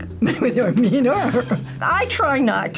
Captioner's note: laughs